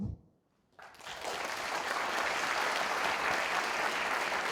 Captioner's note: audience applauding